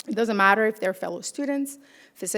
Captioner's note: none